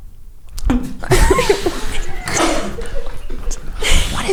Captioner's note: laughing